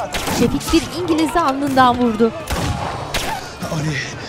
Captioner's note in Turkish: Silah sesleri